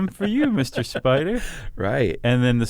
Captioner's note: laughs